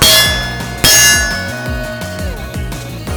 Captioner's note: target rings